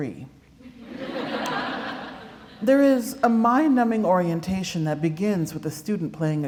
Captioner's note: laughter